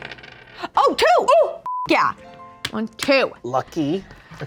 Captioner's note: beep